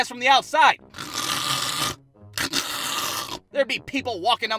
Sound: snores

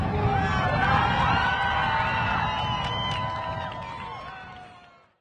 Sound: students cheering

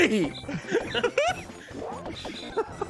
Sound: laughter

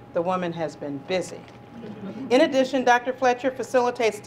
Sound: laugh

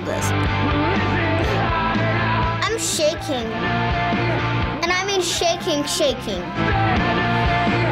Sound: gasps

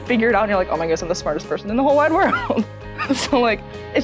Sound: laughs

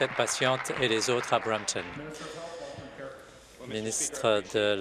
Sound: applause

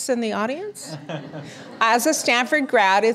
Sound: audience laughter

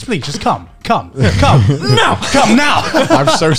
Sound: laughing

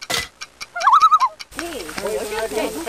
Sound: loon calls

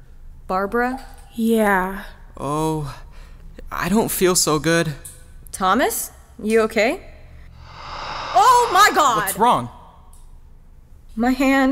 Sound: breathy sound

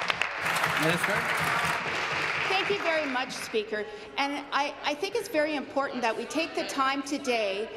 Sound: applause

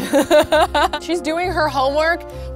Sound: laughing

